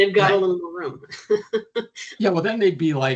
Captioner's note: chuckling